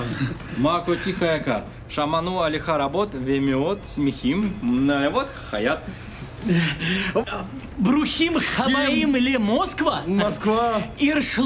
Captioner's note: speaks hebrew